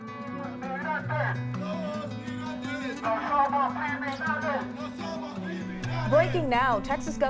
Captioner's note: chanting in Spanish